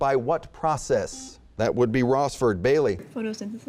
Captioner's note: buzzing